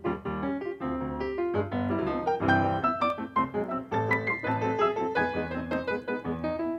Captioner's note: none